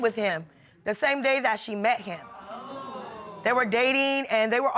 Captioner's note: audience exclaiming